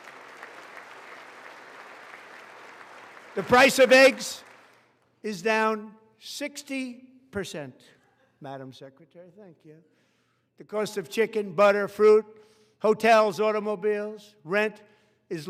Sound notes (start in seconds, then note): 0.0 applause